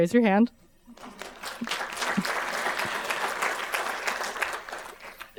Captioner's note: audience applauding